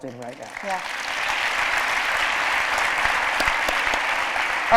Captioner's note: applause